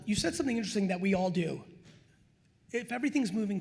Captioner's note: none